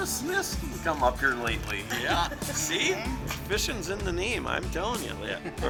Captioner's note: laughing